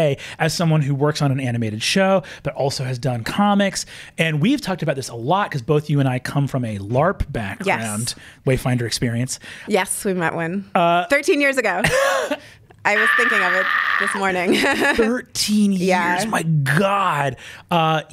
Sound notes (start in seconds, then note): 12.9 mock screams; 12.9 laughs